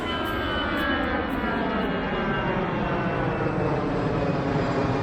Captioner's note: plane engine whirring